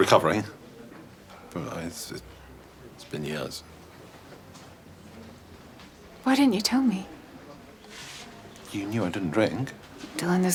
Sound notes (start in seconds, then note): none